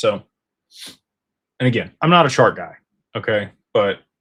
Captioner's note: snorts